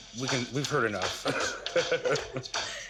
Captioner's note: laughs